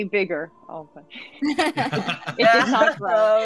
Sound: group laughing

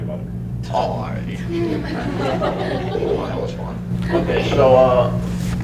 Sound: laughter

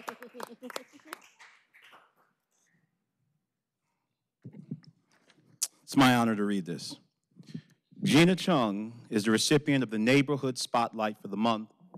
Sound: applause

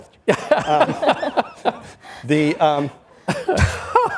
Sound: all laughs; laughs

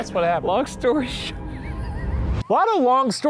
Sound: laughing

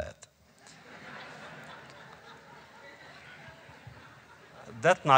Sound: laughter

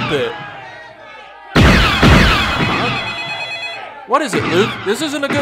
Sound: phone rings

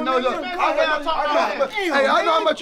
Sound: shouting over each other

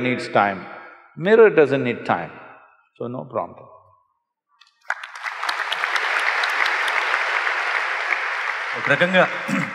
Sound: applause

